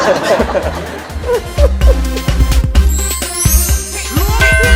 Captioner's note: laughing sound